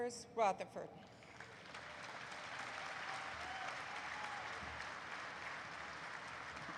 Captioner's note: applause erupts